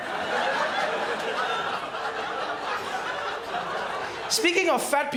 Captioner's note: crowd laughs